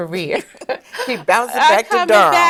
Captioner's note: laughing